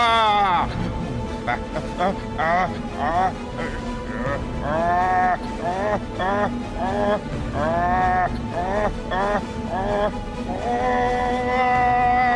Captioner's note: groans